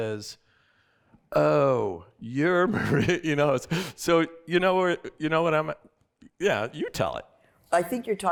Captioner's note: laughter